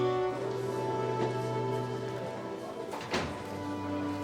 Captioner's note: men chattering